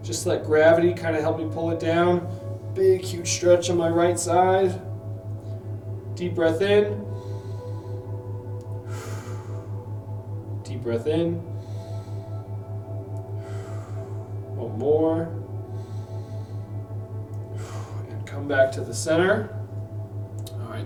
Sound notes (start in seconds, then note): 7.0 inhales; 9.0 exhales; 11.5 inhales; 13.5 exhales; 15.4 inhales; 17.6 exhales